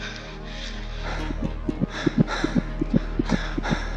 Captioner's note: heart beating